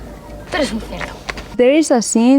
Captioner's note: Penelope speaks Spanish